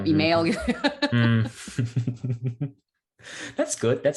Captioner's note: laughs